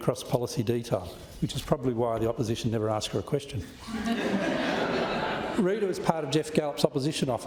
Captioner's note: laughter